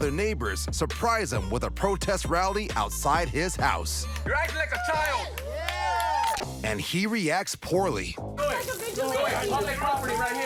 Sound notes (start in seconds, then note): 4.2 crowd cheers; 8.5 indistinct chatter